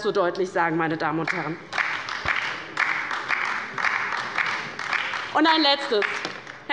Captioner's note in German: Beifall bei der LINKEN